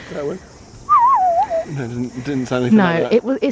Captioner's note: imitates bird